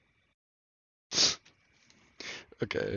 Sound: sneef

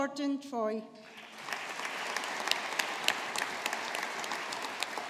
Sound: audience applauding

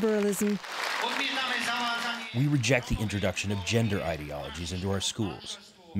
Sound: through translator

